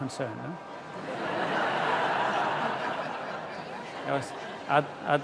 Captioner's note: laughter